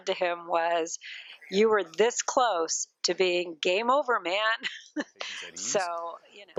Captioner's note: laughing